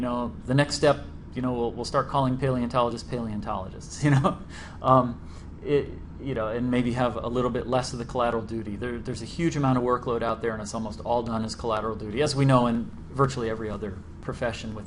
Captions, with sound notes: step, we'll start calling paleontologists, paleontologists [laughs] and maybe have a little bit less of the collateral of duty. There's a huge amount of workload out there, and it's almost all done its collateral duty as we know in virtually every other profession